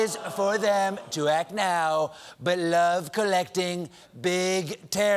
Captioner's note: as trump rapping